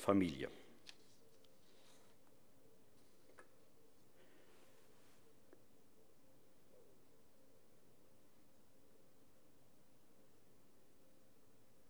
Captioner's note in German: Schweigeminute